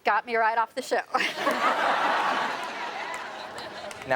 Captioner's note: everyone laughs